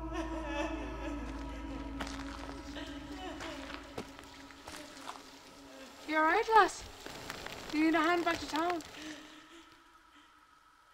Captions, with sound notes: (footsteps crunching) - You all right, lass? You need a hand back to town?